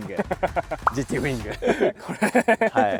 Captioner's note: laughs